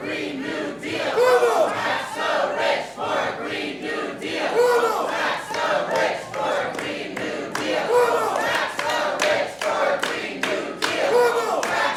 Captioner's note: chanting